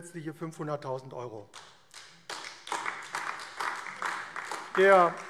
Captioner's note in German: Beifall AfD